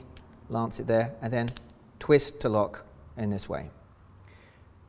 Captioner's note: cap clicks